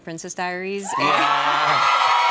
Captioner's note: cheers and applause